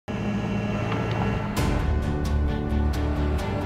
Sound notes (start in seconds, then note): 0.1 machine sounds; 1.5 upbeat Music